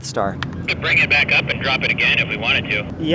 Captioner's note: man On Radio